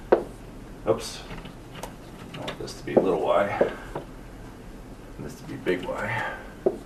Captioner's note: marker thudding